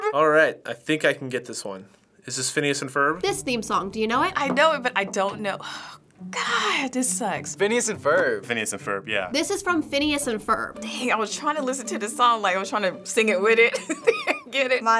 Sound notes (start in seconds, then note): 6.0 sighing; 13.7 chuckles